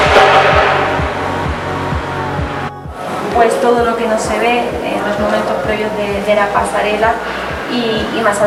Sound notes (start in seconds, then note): 6.1 spanish radio